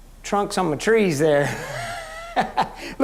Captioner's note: laughing